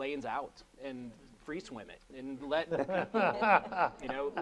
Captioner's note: laughing